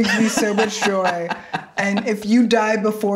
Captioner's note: laughing